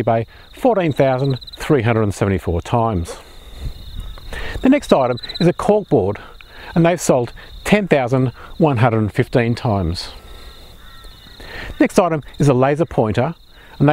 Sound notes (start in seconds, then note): 3.3 birds chirping; 8.9 birds chirping